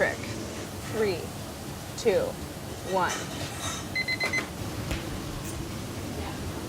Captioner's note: kitchen timer beeps